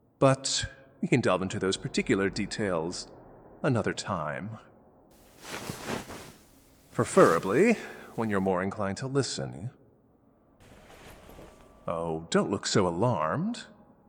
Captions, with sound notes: But, we can delve into those particular details another time... (sound of listener's renewed struggles) (exasperated) Preferably when you’re more inclined to listen... Oh, don't look so alarmed.